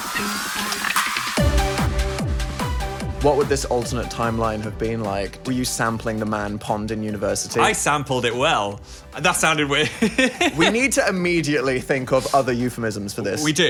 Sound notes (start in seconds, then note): 9.9 laughing